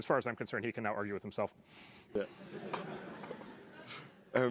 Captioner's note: laugh